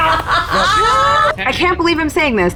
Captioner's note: palms clapping; players laughing